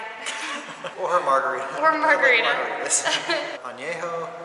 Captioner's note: laughter